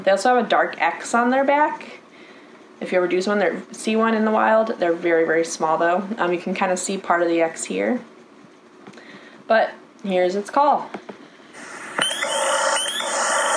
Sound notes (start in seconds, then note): 11.6 spring peeper call